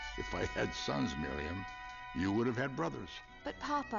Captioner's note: laughs